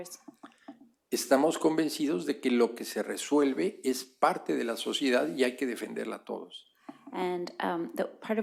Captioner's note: speaking spanish